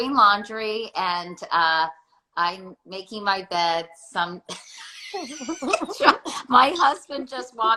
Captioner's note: laughs